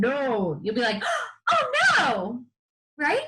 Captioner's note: gasps